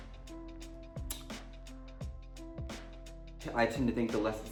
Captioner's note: Symone kisses